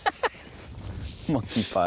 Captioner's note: laughs